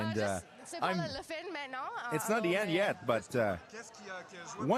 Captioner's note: speaking French